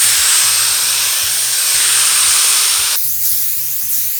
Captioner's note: dryer whirs